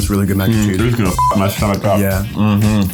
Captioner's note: beep